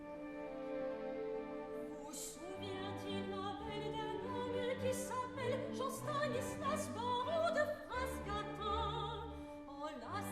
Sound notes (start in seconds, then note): 1.7 METELLA, reading